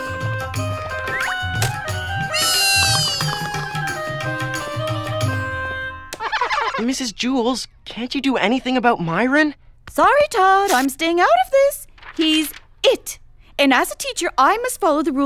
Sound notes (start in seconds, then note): 1.8 squeals of delight